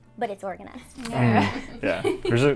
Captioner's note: all laugh